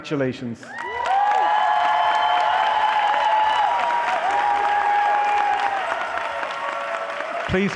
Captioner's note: applause